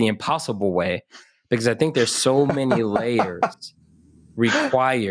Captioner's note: laugh